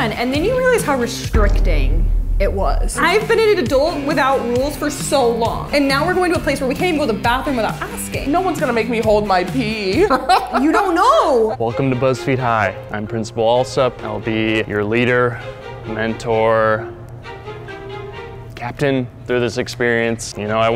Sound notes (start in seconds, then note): 9.9 laughs